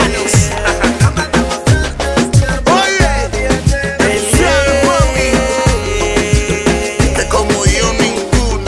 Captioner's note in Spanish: risas